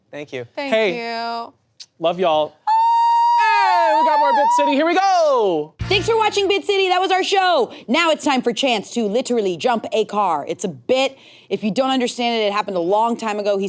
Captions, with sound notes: - Thank you. - Thank you. - Love y'all. (person cheering) Hey, we got more "Bit City". Here we go! - Thanks for watching "Bit City". That was our show. Now, it's time for Chanse to literally jump a car. It's a bit. If you don't understand it, it happened a long time ago.